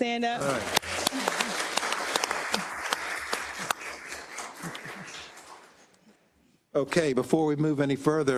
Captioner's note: applause